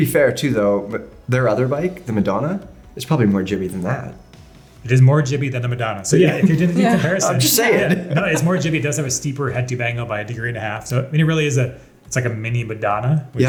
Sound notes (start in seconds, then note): 6.2 laughs